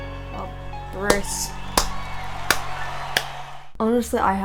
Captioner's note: hands clapping; audience cheering